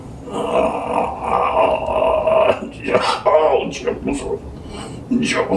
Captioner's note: groaning